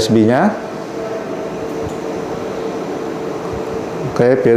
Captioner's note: clicking sound